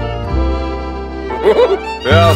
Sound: cursed laugh

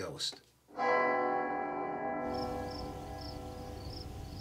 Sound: church bells

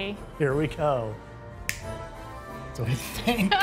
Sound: finger snap

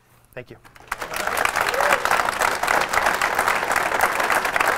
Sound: audience claps

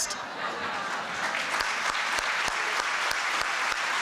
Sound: applause

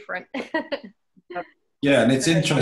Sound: laughs

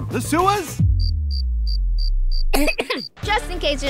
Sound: crickets chirping

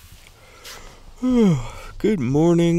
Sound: yawns

